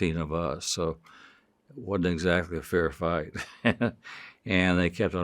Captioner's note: chuckles